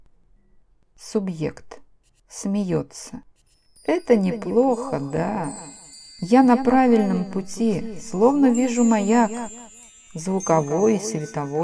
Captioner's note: laughing